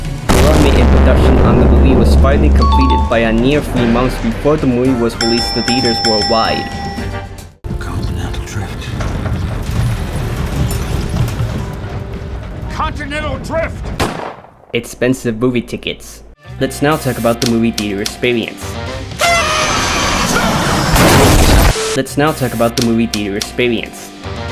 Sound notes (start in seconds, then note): 19.2 kids cheering